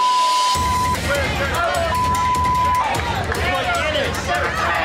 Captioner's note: people yelling